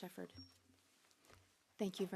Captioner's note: speaking French